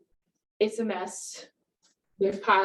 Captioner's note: none